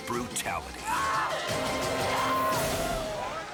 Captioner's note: train screams; trainer yelps